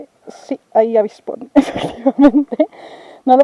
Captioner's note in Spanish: entre risas